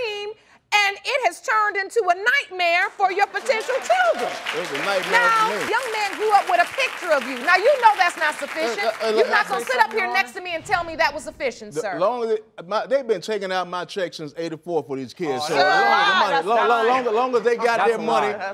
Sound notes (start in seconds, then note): 3.7 audience applauding; 8.2 stuttering